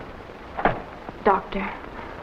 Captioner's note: newspaper thuds